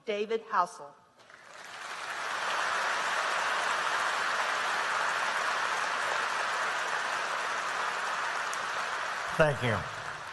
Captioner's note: applause